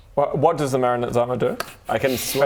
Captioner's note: none